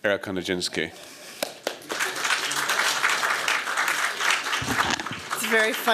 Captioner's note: applause